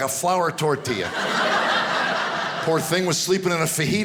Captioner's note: audience laughing